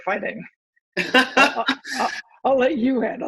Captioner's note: laughter